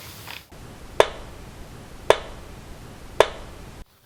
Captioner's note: knocking